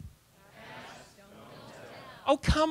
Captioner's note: audience response